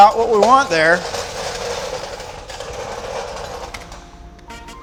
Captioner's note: chair rolling